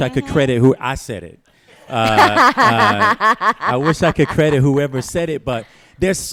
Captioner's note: laughter